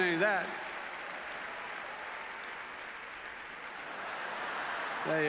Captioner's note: applause